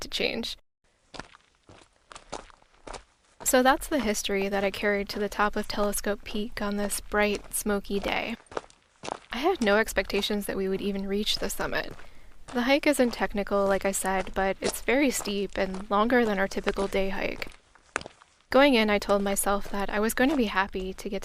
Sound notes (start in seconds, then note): 3.0 footsteps audio